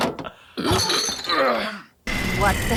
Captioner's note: door closing; laughing; bottles clinking; grunting